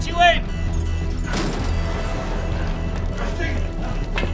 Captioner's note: alarm buzzing; suspenseful music continues